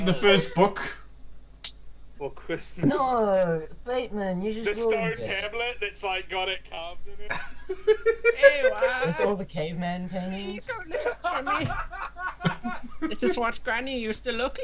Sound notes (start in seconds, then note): 0.0 laughing; 7.6 impersonating Granny